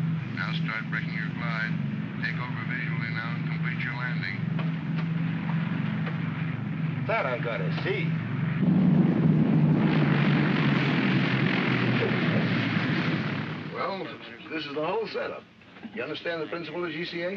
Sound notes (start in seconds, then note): 8.5 aircraft rumbles